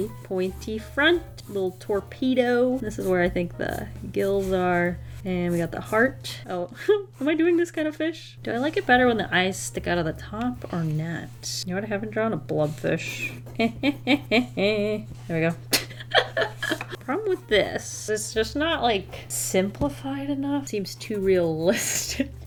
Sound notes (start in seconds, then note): 15.7 laughs